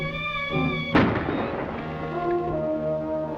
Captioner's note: gunshot